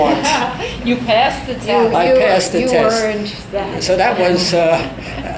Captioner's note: all laugh